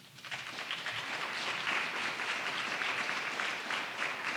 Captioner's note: audience applauding